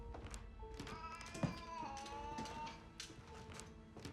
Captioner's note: cat yowls